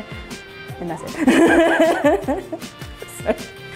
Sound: laughing

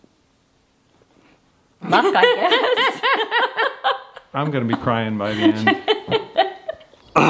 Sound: laughter

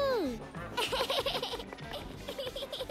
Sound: giggles

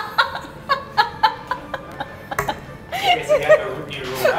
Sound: laughing

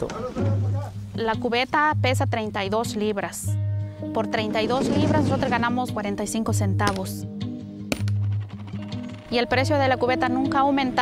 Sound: speaking Native Language

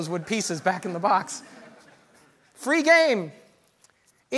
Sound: audience laughter

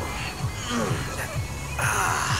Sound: groans; music plays faintly

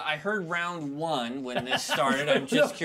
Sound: speaker laughs

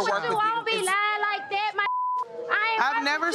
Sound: beep

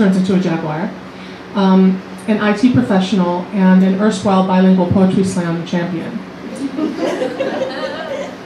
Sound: laughter

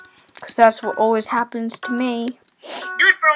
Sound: sniff

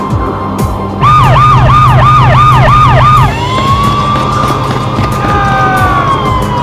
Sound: sirens blaring; screaming

